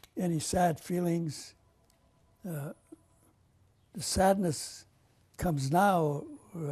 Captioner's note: pauses for 3 seconds